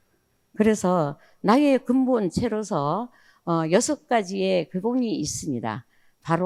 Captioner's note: speaking in foreign language